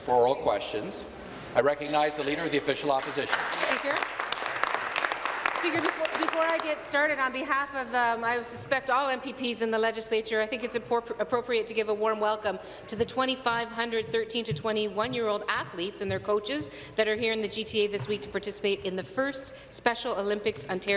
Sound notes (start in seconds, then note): 6.3 applause